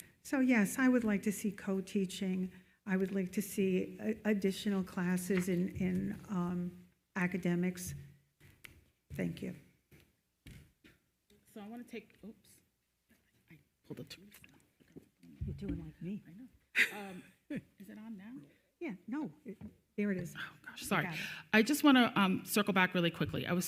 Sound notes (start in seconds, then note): 16.7 chuckles